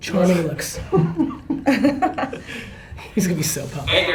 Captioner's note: laughter